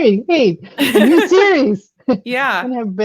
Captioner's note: laughs